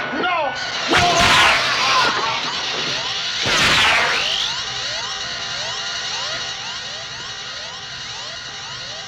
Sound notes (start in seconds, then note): 3.3 beeping; 3.3 zapping